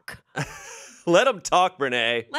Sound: laughs

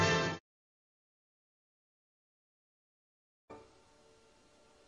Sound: old-fashioned music continuing; silence

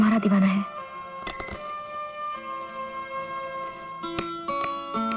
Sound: bangle clattering

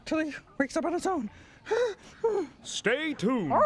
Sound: gasping nervously

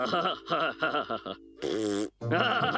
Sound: chuckles; blowing raspberry; chuckling

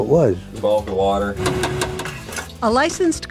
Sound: mixer

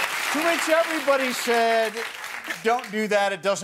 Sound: cheering and applause

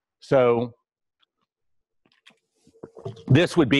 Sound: pause

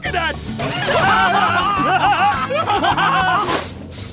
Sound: laughing

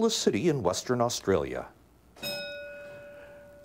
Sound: bell ringing

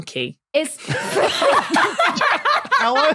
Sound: group laughs uproariously

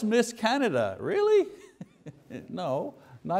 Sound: chuckles

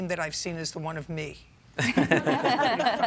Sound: laughter

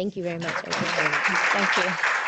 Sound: audience applauds

